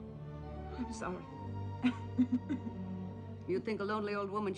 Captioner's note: coughing